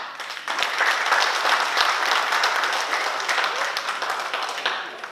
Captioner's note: oklaski